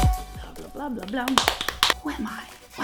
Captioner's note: slaps legs loudly